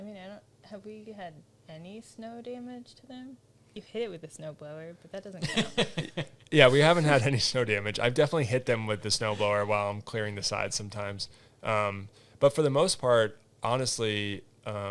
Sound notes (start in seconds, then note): 5.4 laughs